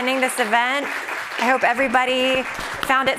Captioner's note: audience applauding